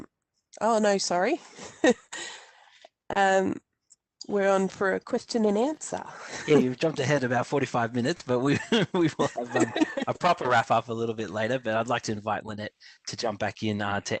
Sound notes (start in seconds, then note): 1.6 chuckles; 8.4 laughs